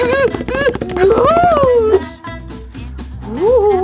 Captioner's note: Scooby feet patter